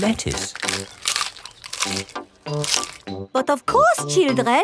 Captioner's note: munching